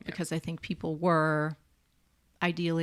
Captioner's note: none